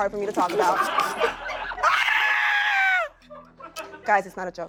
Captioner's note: laughter and shouting